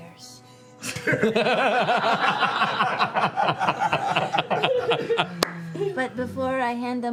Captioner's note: laughter